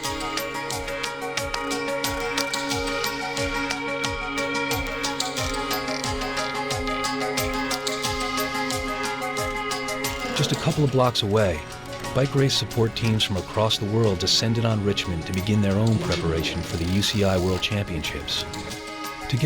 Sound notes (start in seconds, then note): 0.2 lighthearted music; 10.3 voiceover